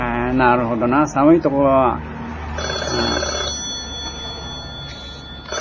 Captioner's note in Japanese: 電話の音